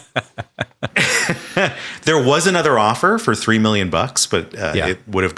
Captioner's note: Hank laughing; chuckles